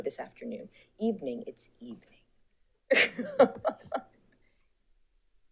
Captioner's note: laughs